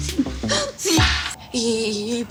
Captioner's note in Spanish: Sollozos